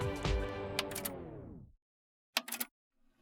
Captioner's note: music stops, button clicks